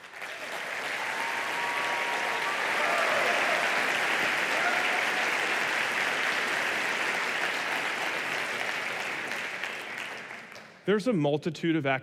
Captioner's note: applause